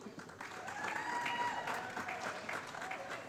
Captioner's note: applause